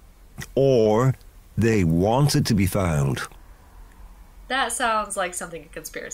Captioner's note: laughs